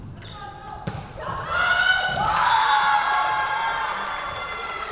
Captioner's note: whistle blowing